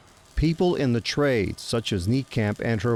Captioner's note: sparks crackling